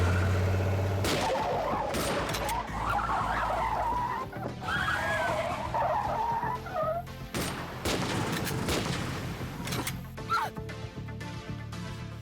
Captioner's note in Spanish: sonido del motor; chirrido de gomas